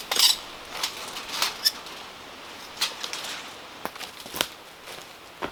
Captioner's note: measuring tape squealing